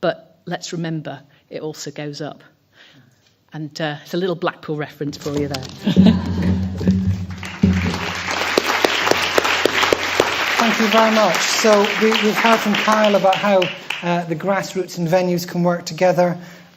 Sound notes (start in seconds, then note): 5.8 laughter; 6.6 applause